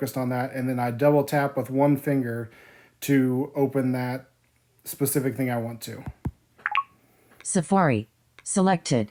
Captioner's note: beep